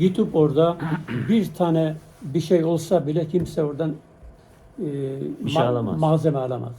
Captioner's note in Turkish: boğazını temizler